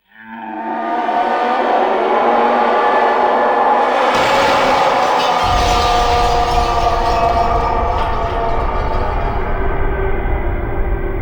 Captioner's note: unworldly scream